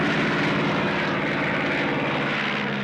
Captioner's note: none